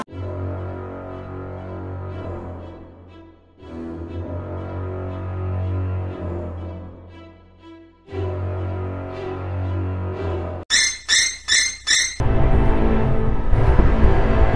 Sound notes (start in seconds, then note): 0.3 suspenseful music; 10.6 piercing sound effect; 11.5 suspenseful music